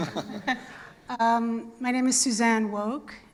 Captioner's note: laughter